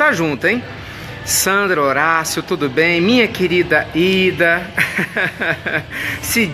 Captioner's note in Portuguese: risos